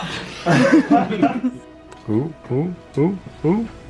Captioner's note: team laughs